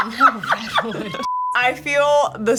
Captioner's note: laughing; color bars beeping; upbeat music